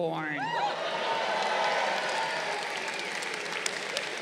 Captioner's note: crowd cheering